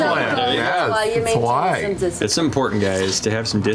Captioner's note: same accent